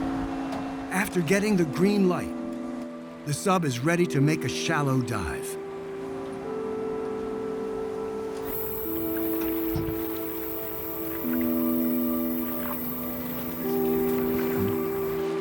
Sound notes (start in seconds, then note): 8.4 hydraulics hissing